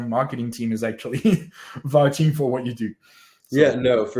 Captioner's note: laughs